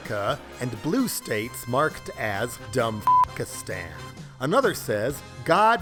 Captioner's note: beep